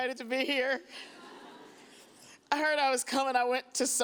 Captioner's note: audience chuckles